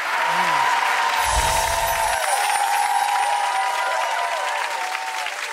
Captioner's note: audience applauds and cheers